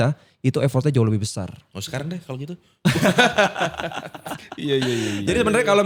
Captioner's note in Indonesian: tertawa